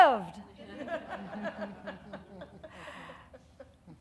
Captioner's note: audience laughing